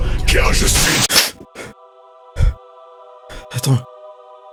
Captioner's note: gasping in panic